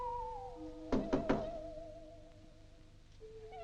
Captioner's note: knocking